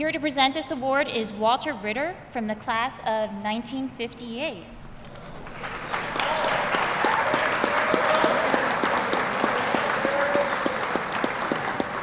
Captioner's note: applause